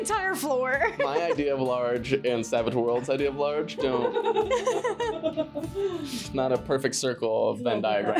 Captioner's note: laughing